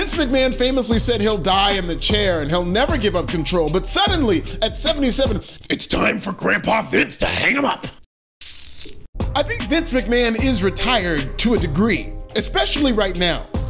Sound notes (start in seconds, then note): 8.4 sucks teeth